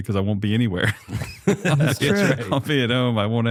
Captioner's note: laughter